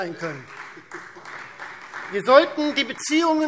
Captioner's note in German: Beifall Freie Demokraten und vereinzelt CDU